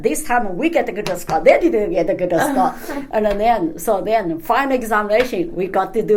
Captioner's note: laughs